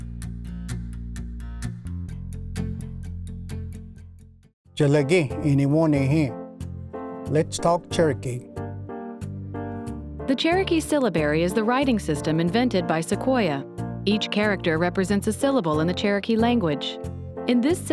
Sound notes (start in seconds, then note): 0.0 theme music; 5.0 language segment music begins; 7.4 speaks in Cherokee